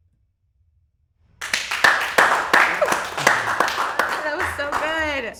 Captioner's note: crowd applauding